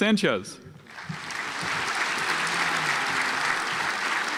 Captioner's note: audience applauds